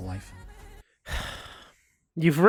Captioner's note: heavy sigh